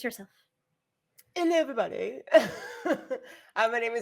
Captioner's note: laughs